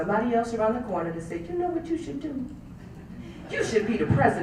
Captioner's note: laugh